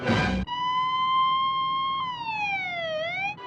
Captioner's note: Siren ağlıyor